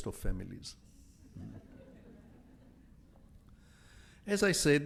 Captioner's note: audience laughs